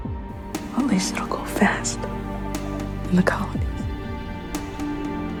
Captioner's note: voiceover